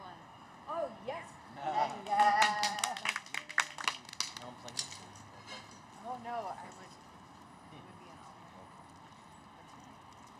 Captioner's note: cheers